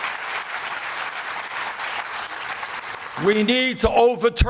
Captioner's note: applause